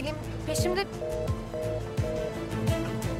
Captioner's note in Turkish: Bağlantı kesildi sesleri